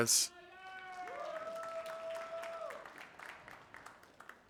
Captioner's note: audience applauding